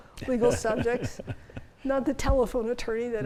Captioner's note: chuckles